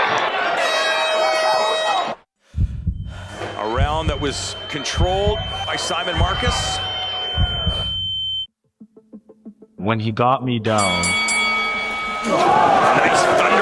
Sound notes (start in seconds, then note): 0.5 horn sounds; 2.5 heart beat